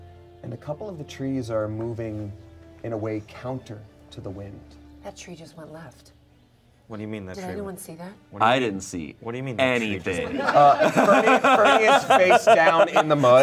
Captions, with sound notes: and a couple of the trees are moving in a way counter to the wind. - That tree just went left. - What do you mean that tree- - Did anyone see that? - I didn't see anything. (everyone laughs) - Fernie is face down in the mud,